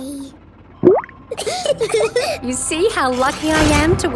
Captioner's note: bubbles; laughing